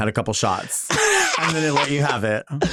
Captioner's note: Nymphia laughing